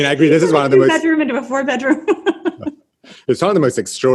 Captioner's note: laughs